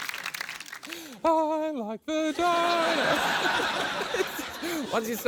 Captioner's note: laughter